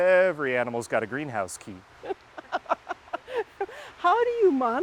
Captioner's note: continues laughing